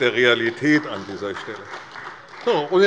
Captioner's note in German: Beifall bei der CDU